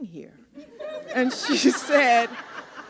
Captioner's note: laughter